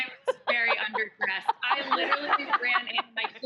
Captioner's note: laughter